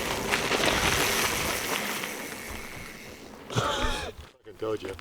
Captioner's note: bike wheels whirring; laughs